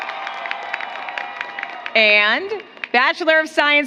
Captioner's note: applause